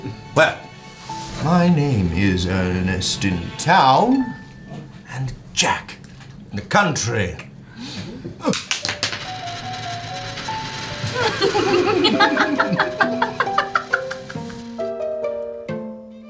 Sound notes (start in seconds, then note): 8.5 coin Spinning Sound; 11.1 laughter